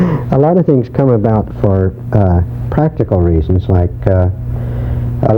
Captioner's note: laughs